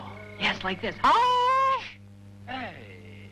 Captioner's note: howling